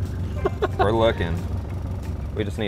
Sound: laughs

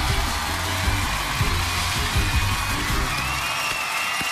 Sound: cheers and applause

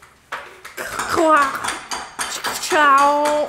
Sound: beatboxing

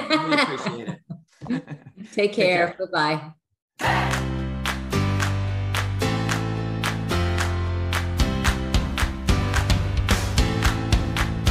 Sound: laughter

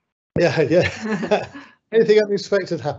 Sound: laughing

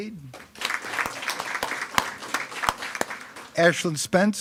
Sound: attendees clapping

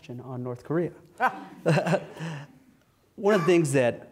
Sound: laugh

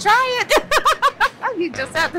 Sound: laughs

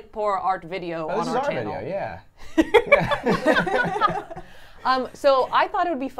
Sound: everyone laughs

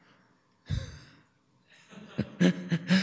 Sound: laughter

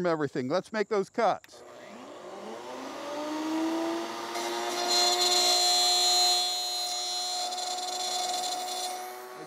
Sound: saw revving

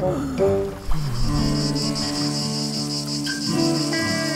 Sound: burning hot sounds

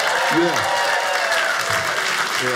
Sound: audience applauding; audience cheers

